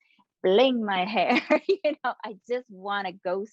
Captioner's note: chuckling